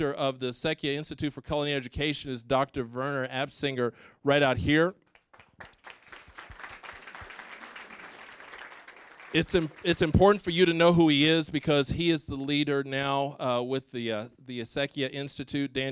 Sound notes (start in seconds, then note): 5.0 applause